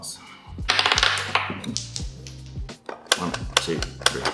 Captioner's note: die falls on floor